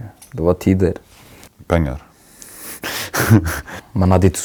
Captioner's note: laughs